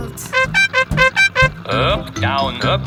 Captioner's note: horn beeping